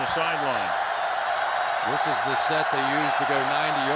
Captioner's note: cheering